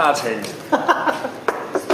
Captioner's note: OR KIA laughs